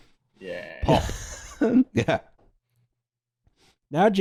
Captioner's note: laughs